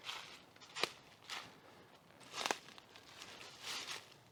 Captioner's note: foot steps